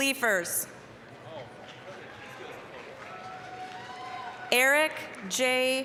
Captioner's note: applause, cheering